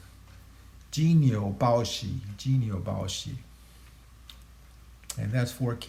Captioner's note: speaking in Chinese language